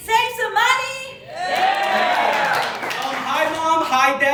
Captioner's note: audience Cheering